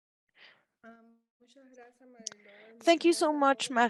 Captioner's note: speaking in Spanish